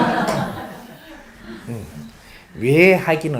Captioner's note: audience laughs